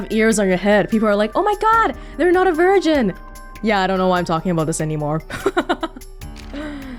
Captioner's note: chuckles